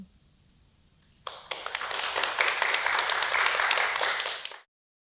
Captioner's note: applause